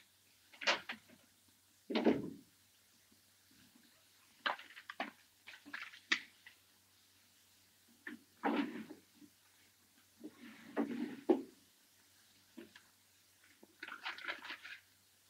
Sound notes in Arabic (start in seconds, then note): none